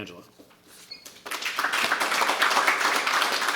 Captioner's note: applause